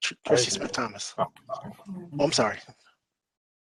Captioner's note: people murmuring